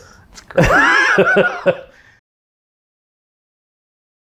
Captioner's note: laughs